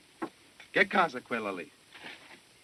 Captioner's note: speaking italian